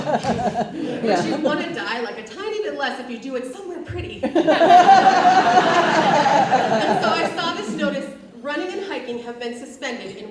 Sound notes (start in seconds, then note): 4.2 audience laughs